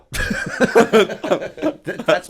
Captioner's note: laughter